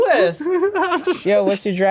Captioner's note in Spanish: ríe